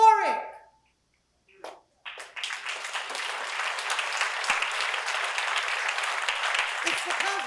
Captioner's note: applause